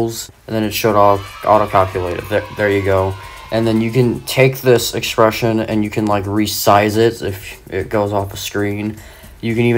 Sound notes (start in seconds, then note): 0.5 kids celebrating sound effect; 3.3 sound effect wanes